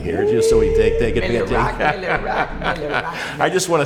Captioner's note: laughter